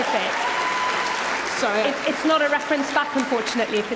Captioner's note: applause